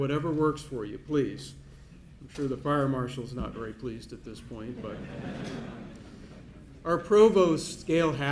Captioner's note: laughter